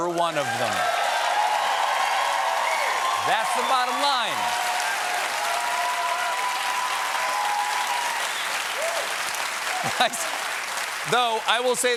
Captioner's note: cheers and applause